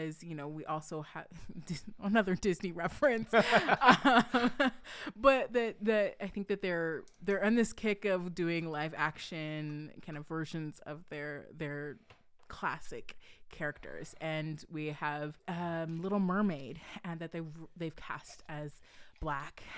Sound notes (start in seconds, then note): 3.3 laughing